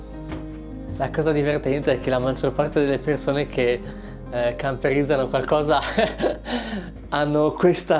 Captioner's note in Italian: risate